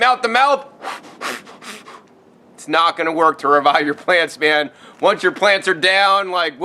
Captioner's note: breathing noises